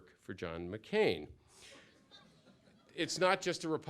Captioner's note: laughter